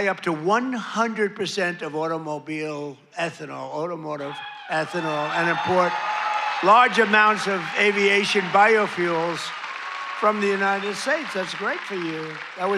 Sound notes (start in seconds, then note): 4.5 cheering